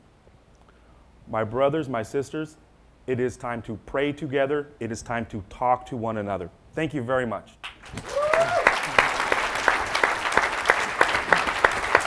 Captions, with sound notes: my brothers, my sisters, it is time to pray together, it is time to talk to one another. Thank you very much. (audience applauding)